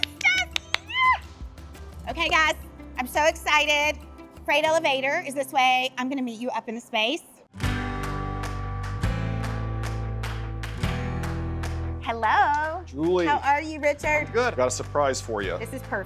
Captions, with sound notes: Yes. (taps) Okay guys, I'm so excited. Freight Elevator is this way. I'm gonna meet you up in the space. (upbeat music) Hello. - Julie. - How are you Richard? - Good. I got a surprise for you.